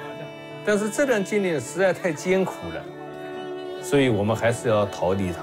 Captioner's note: speaks in Chinese language